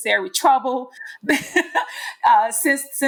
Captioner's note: laughing